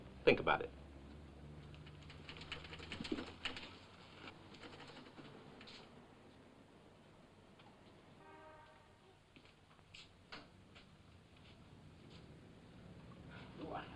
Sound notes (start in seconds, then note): 1.8 typewriter chattering